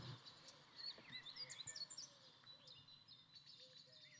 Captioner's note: birds chirping